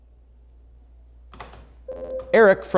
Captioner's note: ringing